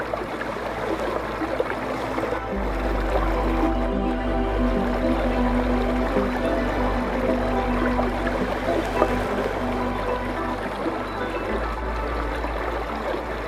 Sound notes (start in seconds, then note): 1.4 bright music continues; 1.4 water continues sloshing